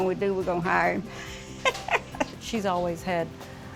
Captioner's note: laughing